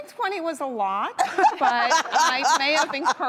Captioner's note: hosts laughing